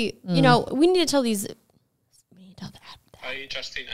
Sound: whispers

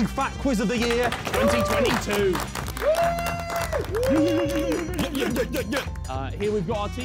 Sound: men clapping and cheering

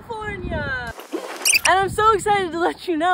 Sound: tape fast forwarding

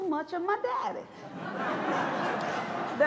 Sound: laughter

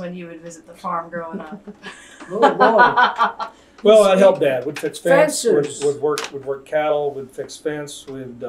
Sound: laughter

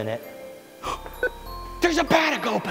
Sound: gasps

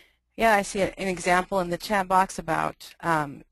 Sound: voiceover

